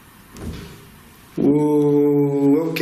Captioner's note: soft thudding